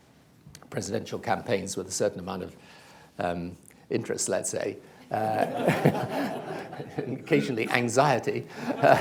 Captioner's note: laughter; laughs, laughter